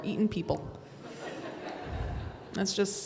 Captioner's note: audience laughs